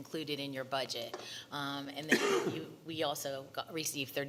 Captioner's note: coughing